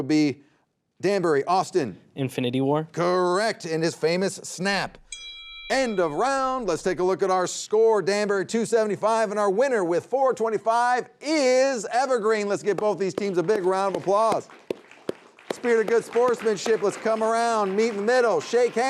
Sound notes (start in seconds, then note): 5.0 bell dinging; 14.4 audience applauding